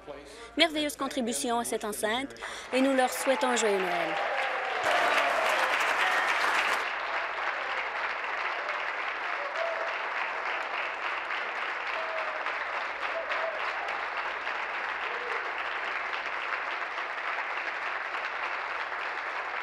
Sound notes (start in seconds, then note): 7.6 applause